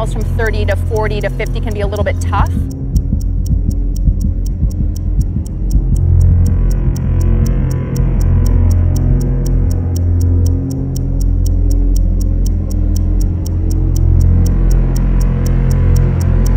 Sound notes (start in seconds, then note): 3.6 clock ticking; 3.6 heart beating; 9.6 clock ticking; 9.6 dramatic music